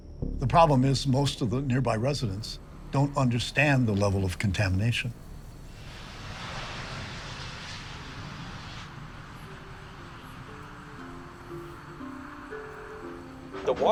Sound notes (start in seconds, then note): 0.0 ominous music; 6.7 plane engine humming; 10.5 gentle music